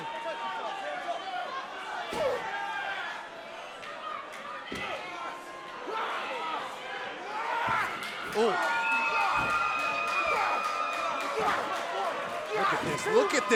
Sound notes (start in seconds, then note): 3.3 crowd cheering